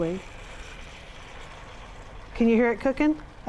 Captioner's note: sizzling